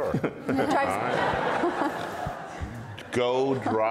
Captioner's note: audience and panel laughs